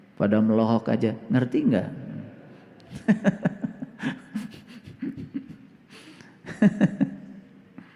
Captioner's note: laughs